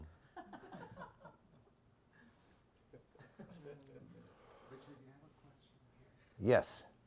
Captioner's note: members of the audience giggling and mumbling